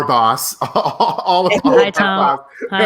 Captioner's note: laughing